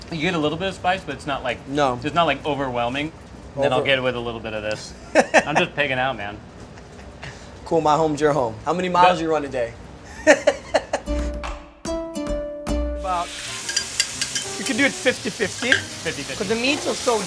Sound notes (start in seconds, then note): 4.9 chef laughs; 10.1 chef laughs; 11.0 upbeat music